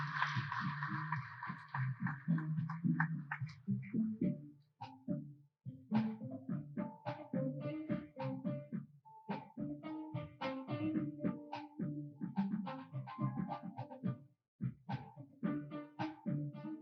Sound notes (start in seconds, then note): 2.6 applause